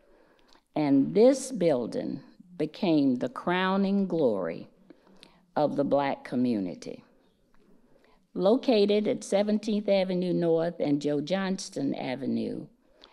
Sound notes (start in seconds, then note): none